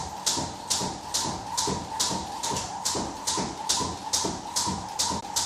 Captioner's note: rope whistling continues